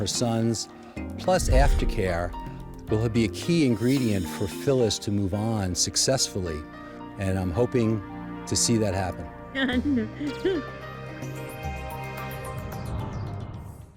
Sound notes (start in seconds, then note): 9.0 laughing